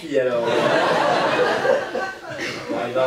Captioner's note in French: rires public